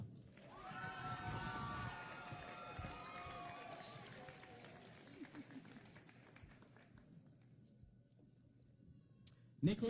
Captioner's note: cheering